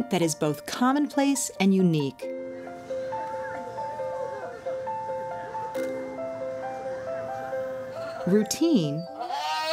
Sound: background chatter

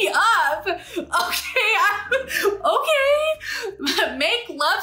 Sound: laughs

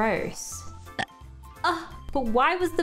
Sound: baby burps

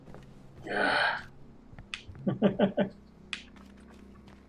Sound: chuckles

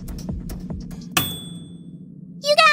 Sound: ding

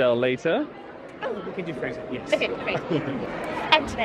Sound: laughs

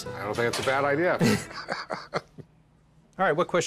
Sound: laughter

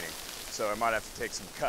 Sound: rain falls

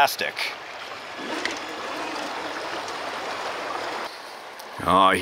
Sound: engine rumbling

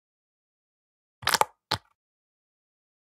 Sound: sound of squish

